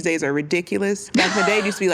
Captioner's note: laughs